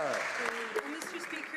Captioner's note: some Applause